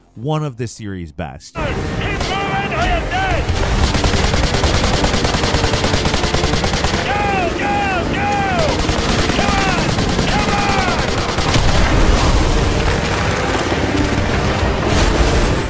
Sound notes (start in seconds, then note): 4.4 dramatic music; 4.4 gunshots boom